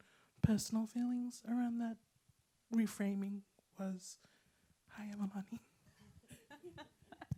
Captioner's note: laughs